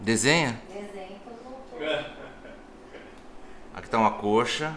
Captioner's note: laughter